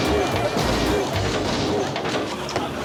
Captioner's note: loud thudding